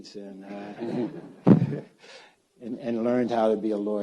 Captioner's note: audience laughs